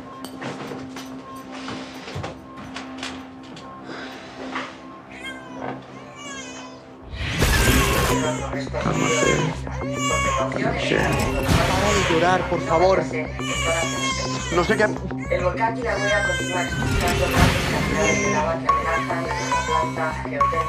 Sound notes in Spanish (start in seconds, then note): 5.2 Llanto de bebé y rumor de TV; 13.4 Llanto